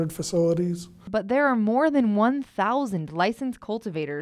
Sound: voiceover

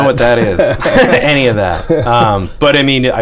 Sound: laughter

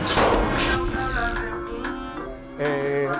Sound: shooting

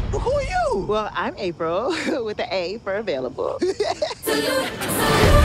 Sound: laughs

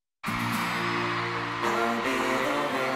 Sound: crowd cheers

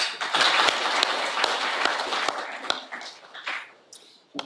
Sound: audience applauding

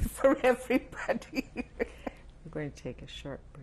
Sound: laughs

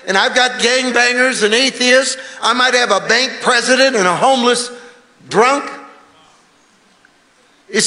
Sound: none

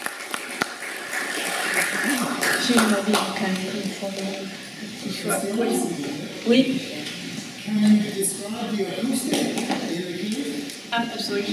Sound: applause and chatter

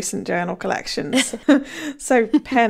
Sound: laughing

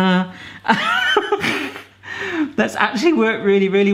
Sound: laughing

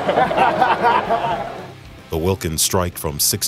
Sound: laughter

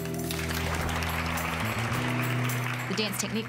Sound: applauding

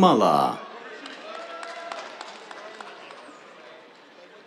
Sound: applause

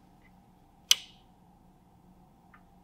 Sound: light Switch Clicks

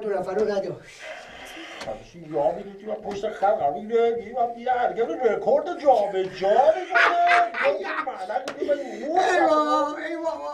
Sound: reporter's voice

